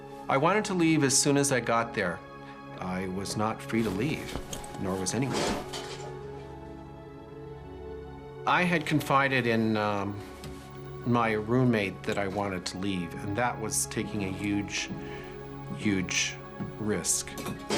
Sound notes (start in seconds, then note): 5.3 metal crashing